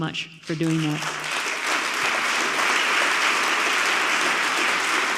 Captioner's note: audience applauds